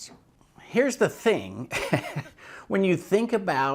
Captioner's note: chuckles